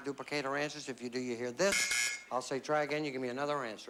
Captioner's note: buzz buzz